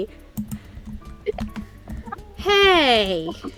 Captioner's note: giggles